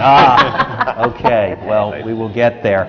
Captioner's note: laughter from the panel